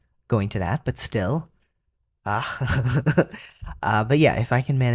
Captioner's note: laugh